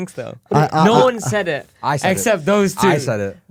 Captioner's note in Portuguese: risos